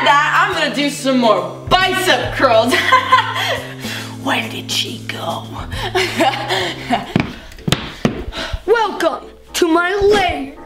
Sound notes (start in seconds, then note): 2.6 laughing; 5.7 laughing; 7.0 feet stomping